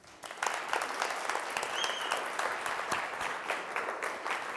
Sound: applause

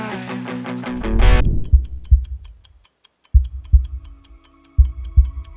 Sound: clock ticking; suspenseful music

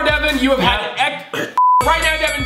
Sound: coughing

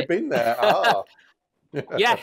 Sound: laughs

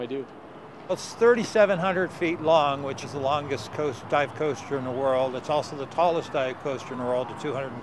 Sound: different man's voice

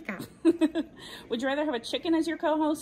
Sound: laughs

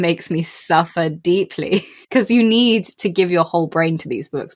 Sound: laughs

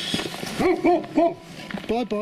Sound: dog barks

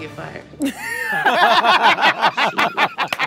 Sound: laughs

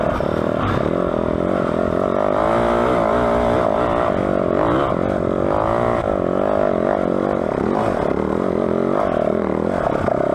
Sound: engine revving

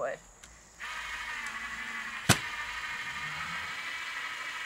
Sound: drill whirring

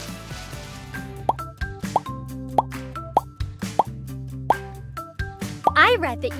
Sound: upbeat music; items make popping sound

